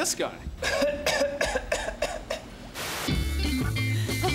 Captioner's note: coughing; chuckling nervously